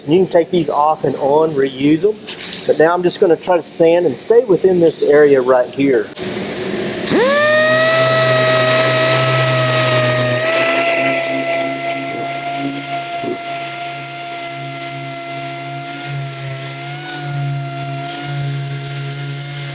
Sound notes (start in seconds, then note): 6.9 sander hums